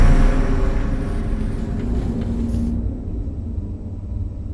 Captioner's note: engine revving